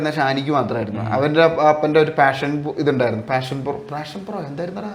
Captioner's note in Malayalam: തൊണ്ട ശരിയാക്കുന്നു